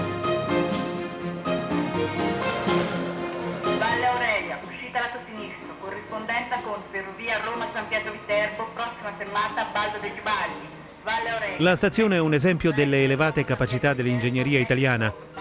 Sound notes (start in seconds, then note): 4.7 automated announcements